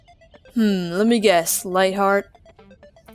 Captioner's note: sarcastically